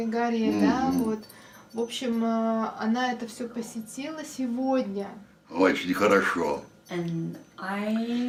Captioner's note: foreign language